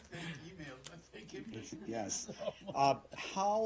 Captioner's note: laughter